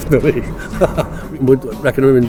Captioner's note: laughs